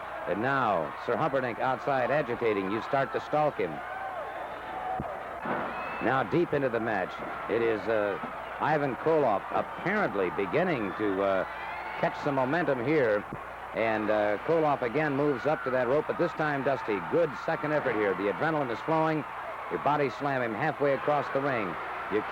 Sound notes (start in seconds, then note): 4.2 crowd cheering